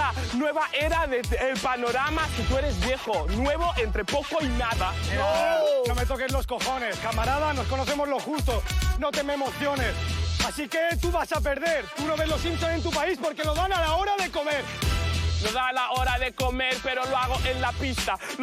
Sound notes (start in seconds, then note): 5.2 screams